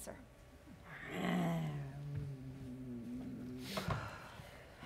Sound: Sharik softly growling

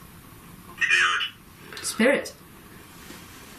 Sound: voice from Ovilus

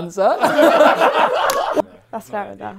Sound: people laughing

